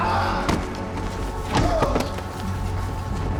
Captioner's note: Stephen yells